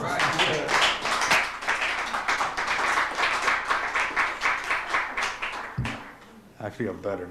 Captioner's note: applause